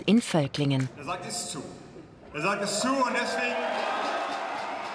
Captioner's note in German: Jubel